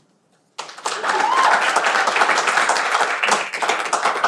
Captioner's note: cheering